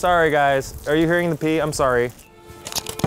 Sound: peeing; peeing sounds

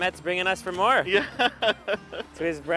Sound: laughs

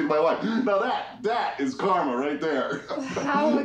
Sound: laughs

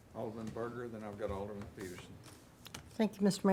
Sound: none

